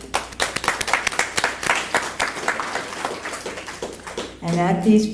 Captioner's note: applause